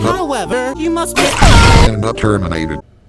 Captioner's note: splode